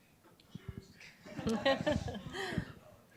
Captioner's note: laughter